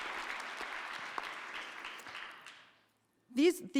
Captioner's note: audience applauding